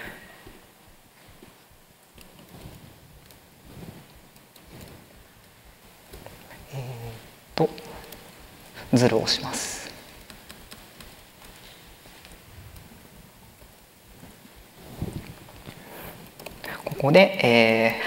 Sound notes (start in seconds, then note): 0.3 silence; 10.3 silence